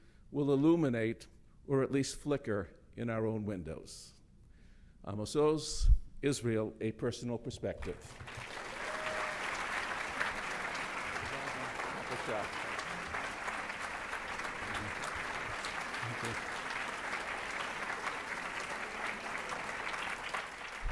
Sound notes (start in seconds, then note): 8.3 audience applauds; 12.0 speaking in foreign language